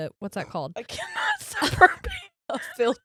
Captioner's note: murmurs